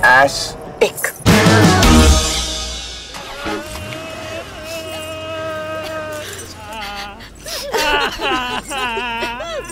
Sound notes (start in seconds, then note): 3.1 People crying